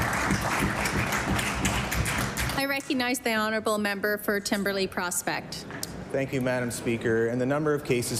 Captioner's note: applause